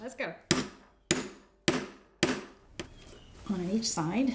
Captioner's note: hammer striking